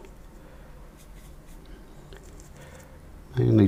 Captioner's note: silence